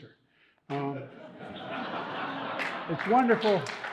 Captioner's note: audience laughing and applauding